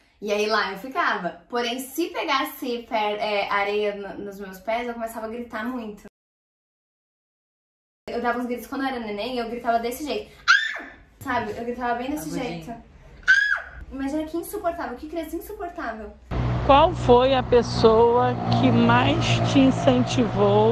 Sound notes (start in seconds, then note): 10.4 screaming; 13.2 screaming